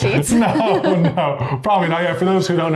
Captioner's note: laughs